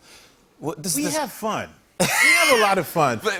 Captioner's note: laughs